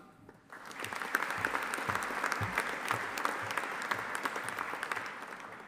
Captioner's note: audience applauding